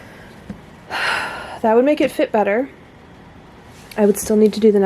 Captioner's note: sigh